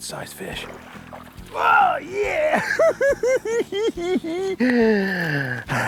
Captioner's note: laughing